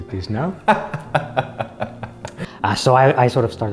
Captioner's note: laughter